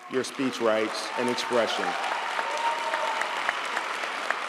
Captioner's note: audience applauds